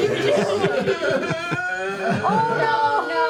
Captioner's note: cries